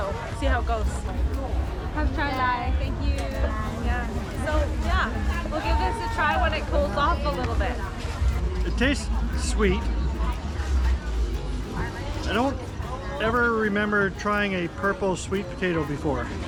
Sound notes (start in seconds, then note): 2.0 laughs